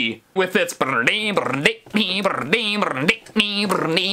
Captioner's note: mimicing breakdown